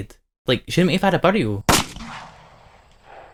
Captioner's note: gunshot